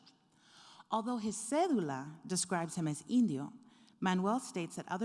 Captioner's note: speaking foreign language